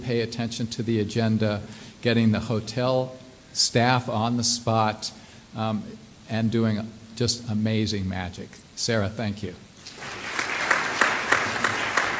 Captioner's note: clapping